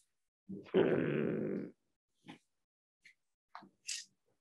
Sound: grunting

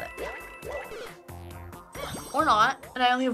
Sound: blip

